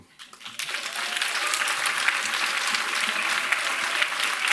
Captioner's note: applause